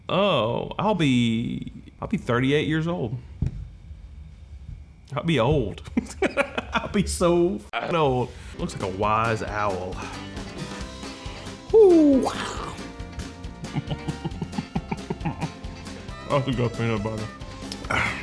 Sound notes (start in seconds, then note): 5.8 laughing; 13.5 chuckling